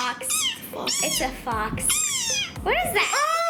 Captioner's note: squeaking